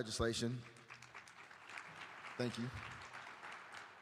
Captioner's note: applause